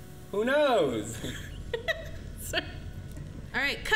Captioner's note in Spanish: risas